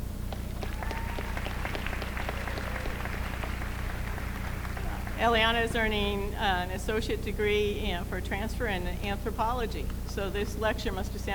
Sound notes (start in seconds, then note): 0.3 applause